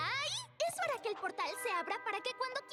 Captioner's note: none